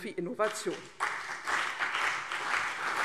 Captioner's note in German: Beifall CDU und BÜNDNIS 90/DIE GRÜNEN